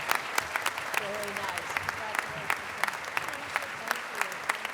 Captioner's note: applause